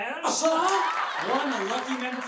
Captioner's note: audience applause